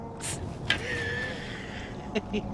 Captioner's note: laughing